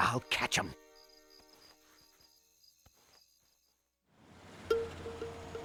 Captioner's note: insects chirping